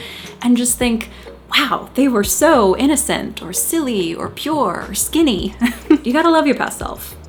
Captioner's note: laughs